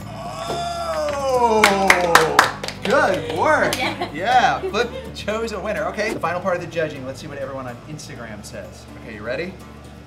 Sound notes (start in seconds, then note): 0.8 clapping